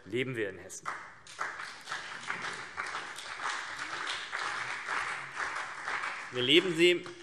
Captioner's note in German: Beifall CDU und BÜNDNIS 90/DIE GRÜNEN